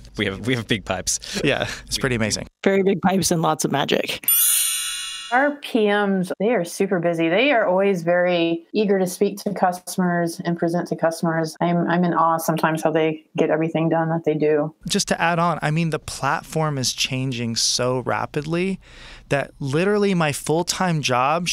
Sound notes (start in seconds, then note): 4.2 chiming